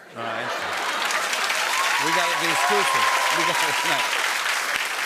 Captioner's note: cheers and applause